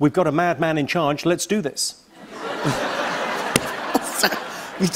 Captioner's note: laughter